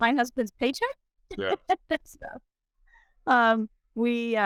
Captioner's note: laughs